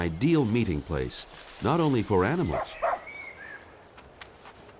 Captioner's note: dog barking